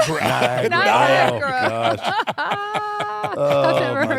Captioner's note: laugh